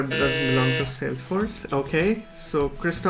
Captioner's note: buzzer buzzing